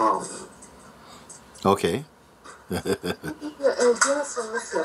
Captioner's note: laughter